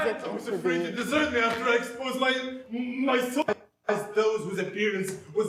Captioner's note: movie clip playing